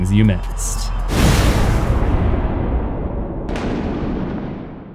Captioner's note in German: thunder